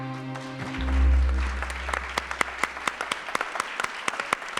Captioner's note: audience applauding